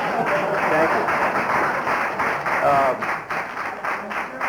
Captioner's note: applause